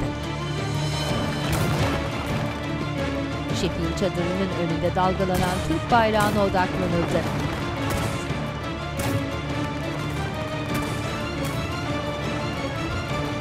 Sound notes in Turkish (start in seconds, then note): 5.2 Silah sesleri